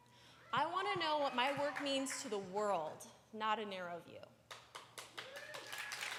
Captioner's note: cheers; applause